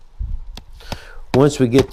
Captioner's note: soft hammering